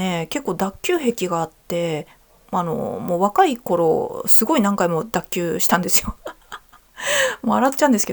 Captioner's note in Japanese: 笑い